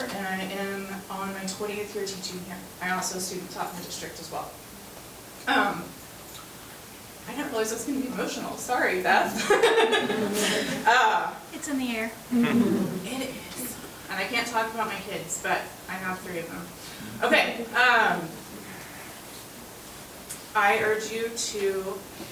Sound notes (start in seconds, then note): 9.3 chuckling